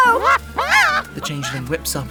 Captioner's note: screaming